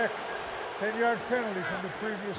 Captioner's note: booing